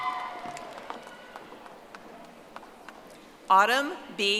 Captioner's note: audience applauding